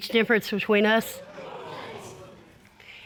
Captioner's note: audience exclaiming